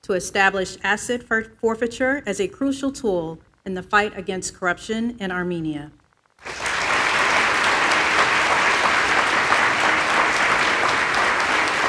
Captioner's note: applause